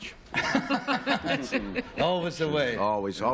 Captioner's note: laughter